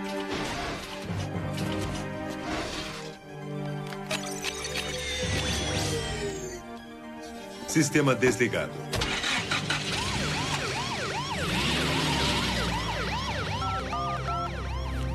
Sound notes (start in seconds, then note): 11.5 siren